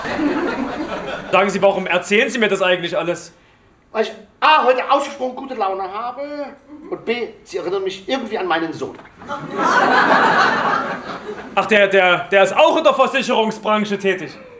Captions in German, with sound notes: Warum erzählen Sie mir das alles? Weil ich gute Laune habe und Sie mich an meinen Sohn erinnern. *Lachen* Ach, der ist auch in der Versicherungsbranche tätig.